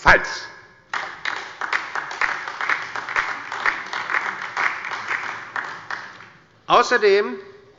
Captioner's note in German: Beifall bei der LINKEN und dem BÜNDNIS 90/DIE GRÜNEN